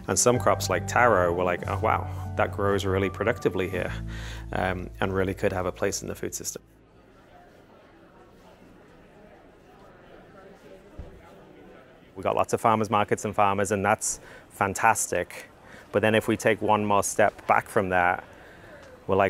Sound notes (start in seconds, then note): 7.5 people chittering